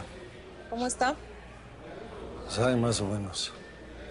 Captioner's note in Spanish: Murmullo de los presos